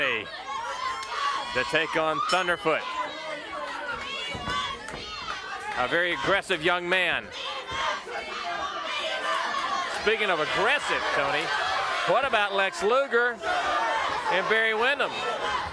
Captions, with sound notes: to take on Thunderfoot. (bell ringing) (crowd cheering) A very aggressive young man. Speaking of aggressive Tony, what about Lex Luger and Barry Windham.